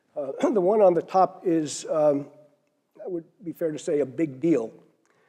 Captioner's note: cough